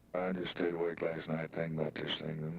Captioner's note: voice On Recorder